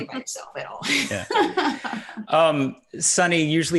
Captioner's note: laughing